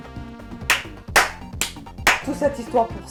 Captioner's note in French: clap